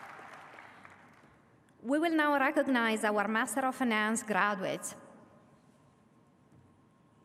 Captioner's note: applause